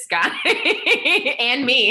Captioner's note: laughter